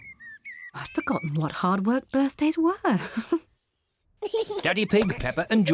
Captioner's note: chuckles